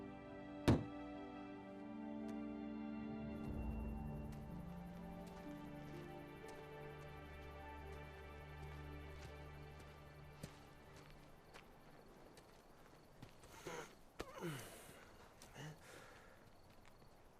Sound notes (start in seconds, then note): 0.7 container thudding; 14.3 Victor groaning